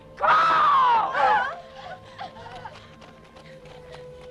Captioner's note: wives whimper